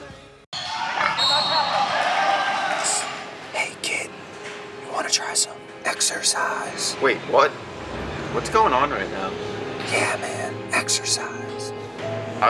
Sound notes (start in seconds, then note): 1.0 whistle blows